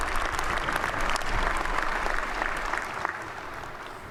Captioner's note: applause